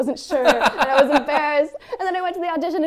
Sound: laughs

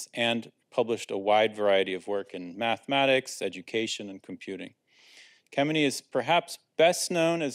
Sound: none

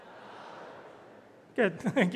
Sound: audience speaking aloud

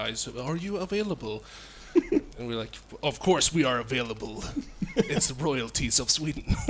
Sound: tough voice; laughs

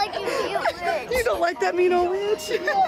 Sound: laughs

